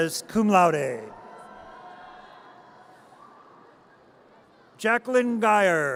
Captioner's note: audience cheers